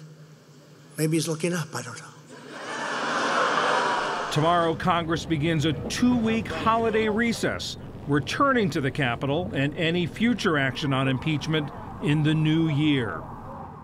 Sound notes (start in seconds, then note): 2.3 laughter; 4.7 cheering and applause